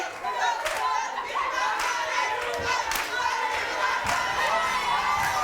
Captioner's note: audience cheers and chants